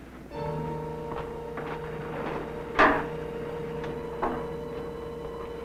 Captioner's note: dramatic music; footsteps descending